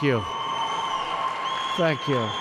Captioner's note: applause